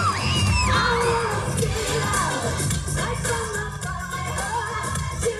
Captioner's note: chanting; cheering